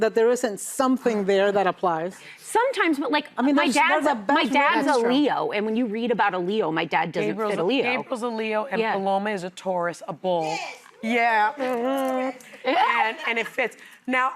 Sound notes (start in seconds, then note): 12.6 laughter